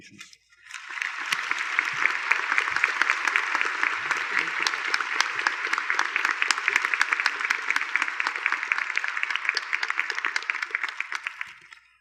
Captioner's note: applause